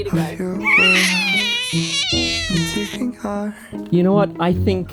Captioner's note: baby screaming